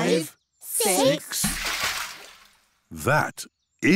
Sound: splash

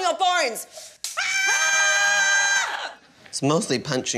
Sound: both scream

